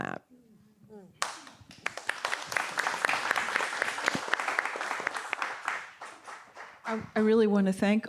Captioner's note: applause